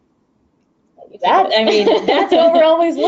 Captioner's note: both laugh